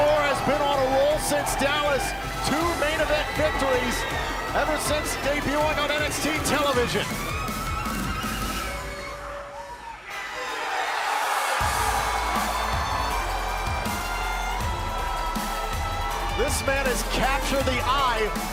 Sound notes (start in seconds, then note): 10.3 cheers and applause